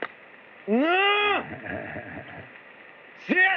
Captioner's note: chuckles